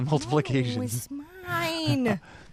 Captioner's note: chuckles